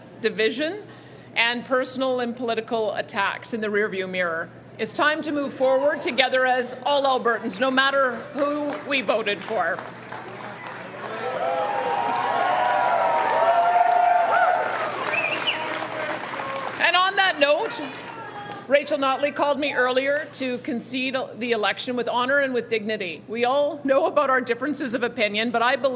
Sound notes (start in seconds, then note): 15.1 cheering